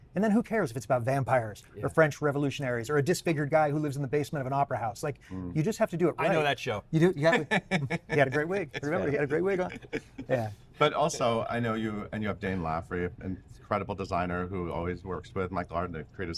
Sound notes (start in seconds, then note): 7.2 Patrick laughing